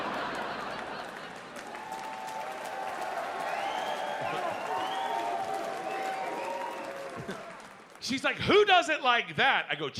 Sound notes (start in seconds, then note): 1.5 audience cheers